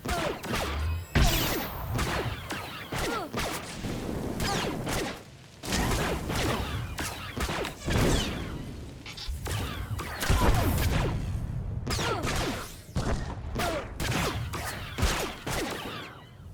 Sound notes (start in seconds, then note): 5.6 gunshots